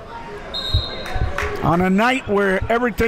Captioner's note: whistle blows